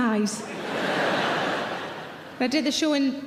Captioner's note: audience laughing